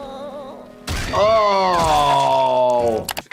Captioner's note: sniffles groaning; Sniffles screaming